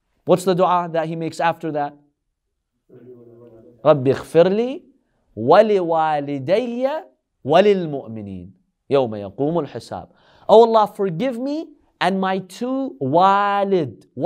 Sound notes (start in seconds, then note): 3.8 Arabic